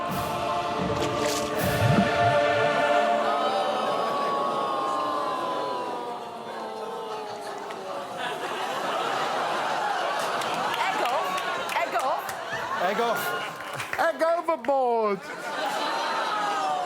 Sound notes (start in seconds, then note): 3.0 audience groaning; 3.0 dramatic music playing